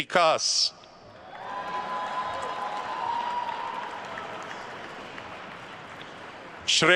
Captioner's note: attendees cheering and applauding